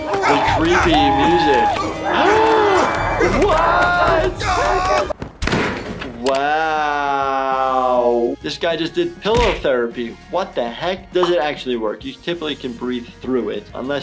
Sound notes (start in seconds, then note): 0.0 dummy screaming muffled; 0.0 creepy violin music; 2.1 gasping; 3.5 dummy screaming muffled; 4.2 Coach grunting; 5.4 garbage bin rattling